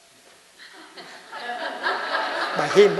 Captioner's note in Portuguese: Risos